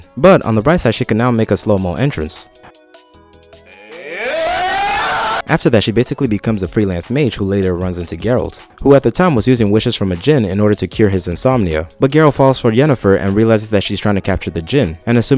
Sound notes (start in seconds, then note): 3.6 yelling with excitement